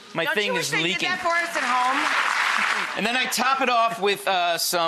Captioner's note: audience claps